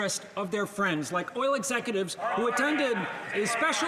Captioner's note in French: voix de l'interprète